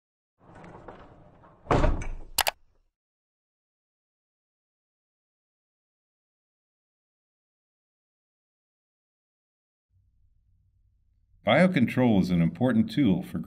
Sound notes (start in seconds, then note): 0.6 ball rolling, click